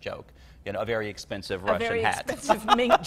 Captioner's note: laughs